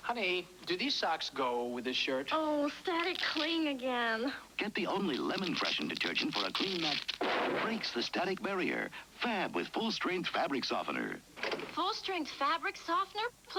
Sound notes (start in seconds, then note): 4.4 V.O., over static sfx; 11.4 door opens